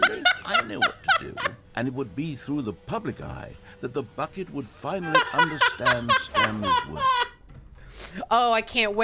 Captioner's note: laughs; laughs